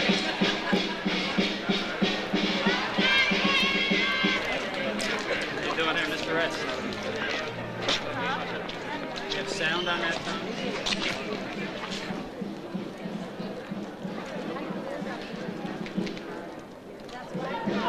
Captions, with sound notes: (slow drum playing) - How you doing there, Mr. S? (overlapping chatter) We have sound on that phone? (overlapping chatter) (slow drum playing) (overlapping chatter)